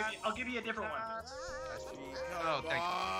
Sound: laugh

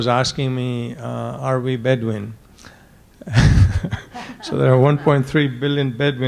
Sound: laughing

